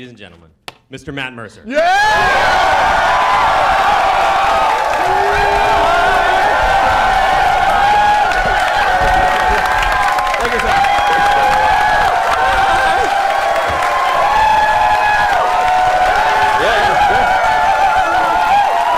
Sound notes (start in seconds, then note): 2.4 cheering